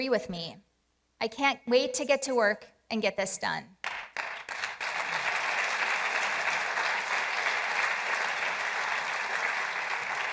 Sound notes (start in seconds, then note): 1.8 applause; 7.4 applause